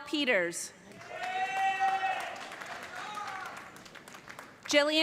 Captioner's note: cheers and applause